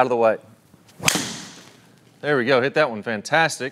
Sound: golf ball snaps

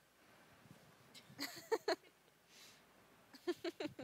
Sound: laughing

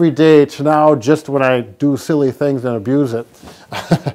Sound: chuckles

